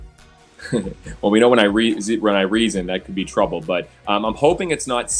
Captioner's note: giggles